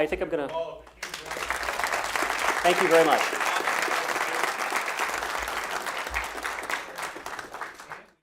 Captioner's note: applause